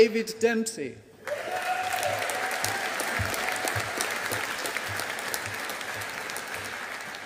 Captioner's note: audience applauding